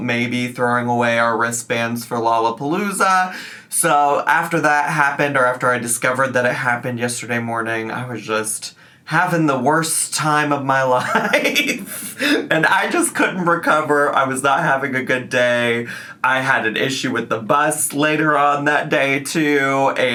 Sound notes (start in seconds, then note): 11.0 laughs